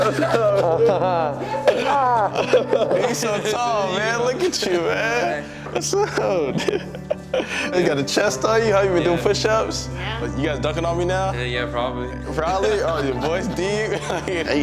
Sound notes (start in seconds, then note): 0.0 both laughing; 6.8 laughs